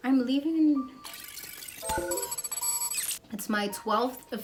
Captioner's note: calculating noises